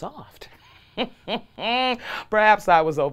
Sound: laughs

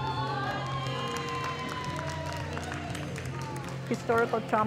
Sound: audience cheers

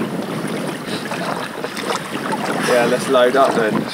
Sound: water lapping

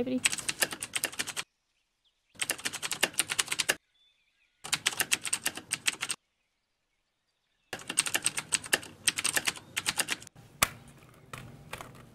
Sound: typing noise

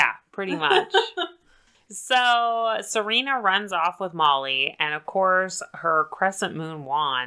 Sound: laughs

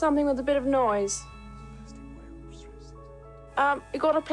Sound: Charles whispering to Diana

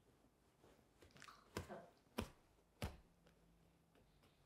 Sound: hands hitting

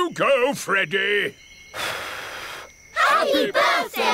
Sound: blows

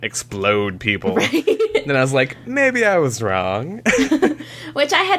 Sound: laughter

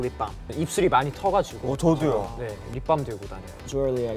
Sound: speaking in Korean

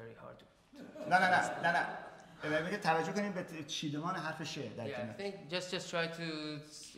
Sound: speaking in farsi

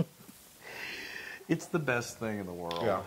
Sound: laugh

